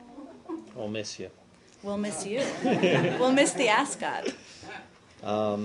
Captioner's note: laughter